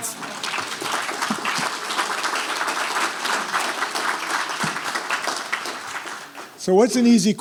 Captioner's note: applause